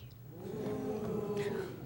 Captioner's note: audience oohs